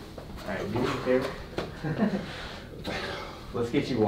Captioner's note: laughing